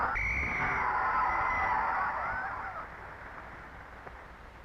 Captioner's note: referee whistling